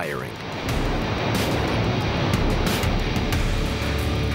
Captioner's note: gun firing